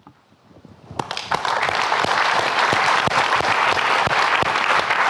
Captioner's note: audience clapping